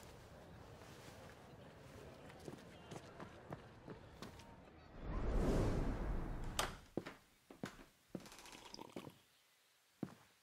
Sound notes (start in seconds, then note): 5.0 wind whooshing